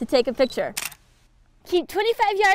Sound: camera click

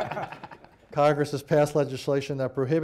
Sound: laughter

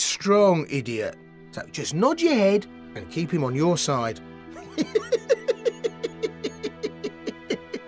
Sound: laughing

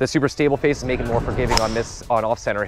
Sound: whooshing sound

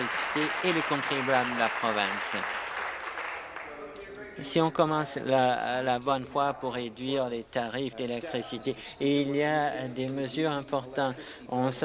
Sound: applause

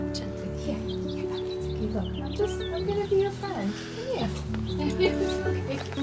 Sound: laughter

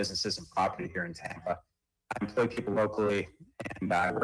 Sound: ~audio distortion~

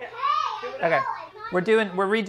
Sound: children yelling

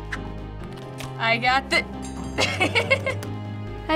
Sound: laughs

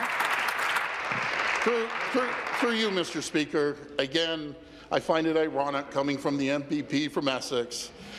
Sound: applause

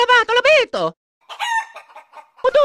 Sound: chicken noise

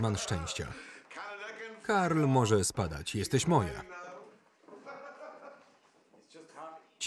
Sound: laughing

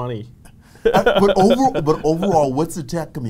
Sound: laughs

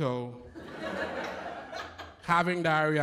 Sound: laughter

